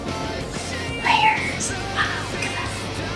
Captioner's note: whispers